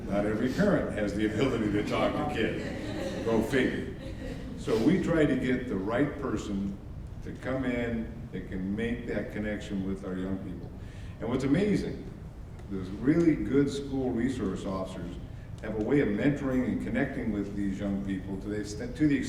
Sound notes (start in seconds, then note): 3.9 audience laughs